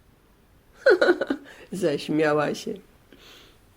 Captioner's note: laughing